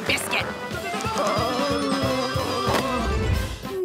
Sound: groaning

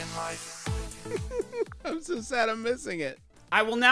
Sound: giggles

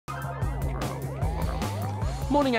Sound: computer beeps

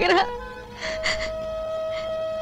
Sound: sobbing

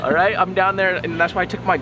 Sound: man laughs

